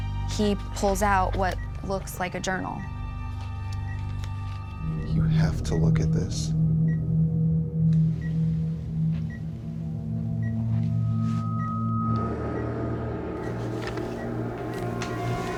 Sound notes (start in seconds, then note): 2.6 beeping; 3.8 ominous music; 6.4 ominous music; 8.9 beeping